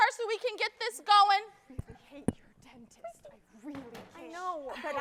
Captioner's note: whispers